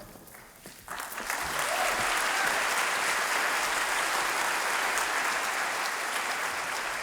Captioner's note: clapping